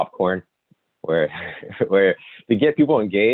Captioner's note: giggles